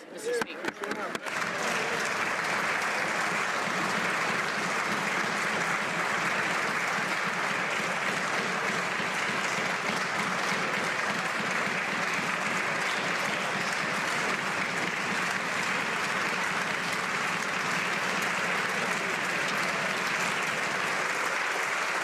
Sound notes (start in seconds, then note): 6.2 some Applause